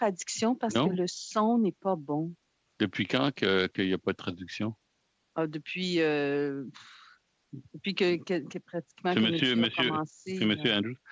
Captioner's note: speaking French